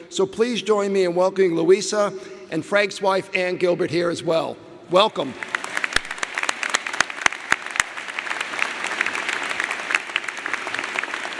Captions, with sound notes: So please join me in welcoming Louisa and Frank's wife Ann Gilbert here as well. Welcome. (audience applauding)